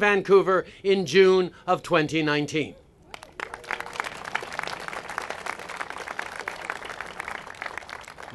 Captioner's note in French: Applaudissements